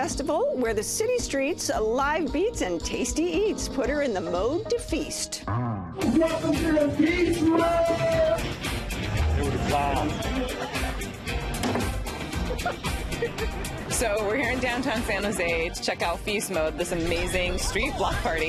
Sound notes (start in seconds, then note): 12.3 laughter